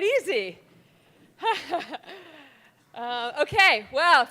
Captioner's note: laughing